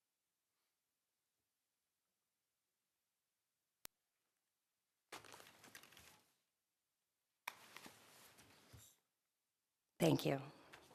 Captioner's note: ?moment of silence?